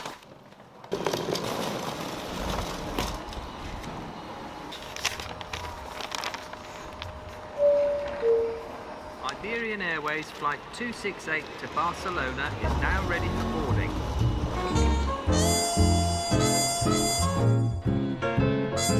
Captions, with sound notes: [intercom chimes] [over intercom]: Iberian Airways Flight 268 to Barcelona is now ready for boarding.